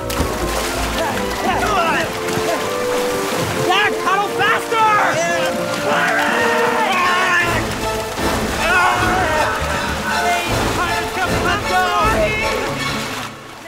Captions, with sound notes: (grunting) - Zach, paddle faster! - I am. - Pirate! (screaming)